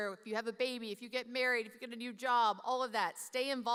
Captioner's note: none